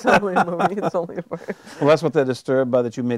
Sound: chuckling

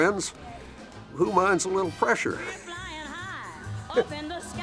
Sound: laughs

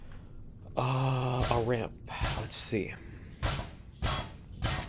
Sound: pinging

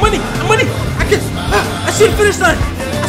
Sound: Dunkey gasps

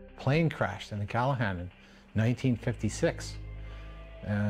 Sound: voiceover

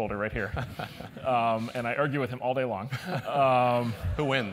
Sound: laugh

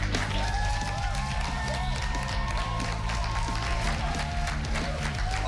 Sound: cheers and applause

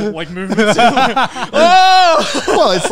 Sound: yells

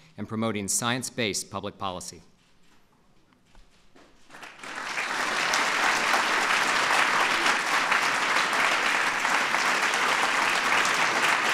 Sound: applause

